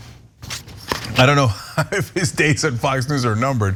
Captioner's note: laugh